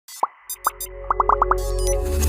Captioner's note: logos popping; electronic music